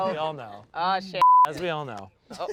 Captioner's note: beep